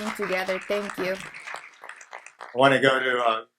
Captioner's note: audience applauds